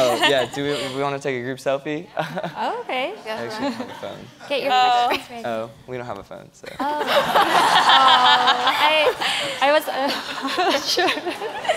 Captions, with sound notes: Yeah to we wanna take a group selfie? Okay alright. Oh we don't have a phone, so. (audience laughs)